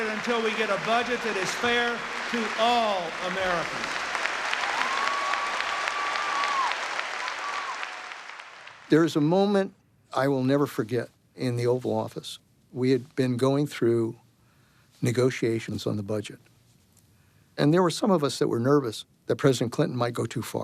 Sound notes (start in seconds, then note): 3.4 cheering and applause